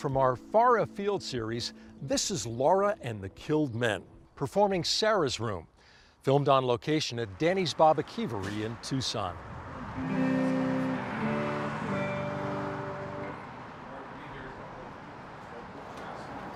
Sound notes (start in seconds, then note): 0.3 guitar strums; 7.5 door creaks